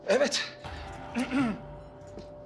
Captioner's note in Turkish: Öksürüyor